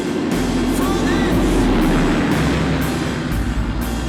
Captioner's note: engines revving